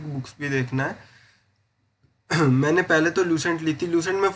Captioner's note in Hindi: गला साफ़ करने की आवाज़